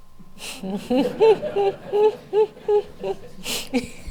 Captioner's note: laughing